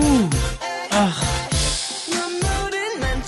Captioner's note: sharp intake